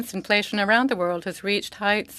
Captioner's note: speaking French